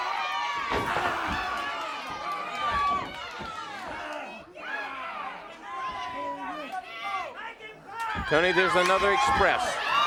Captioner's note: crowd chatter